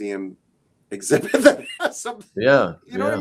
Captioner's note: laughs